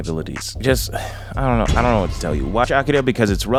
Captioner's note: sighs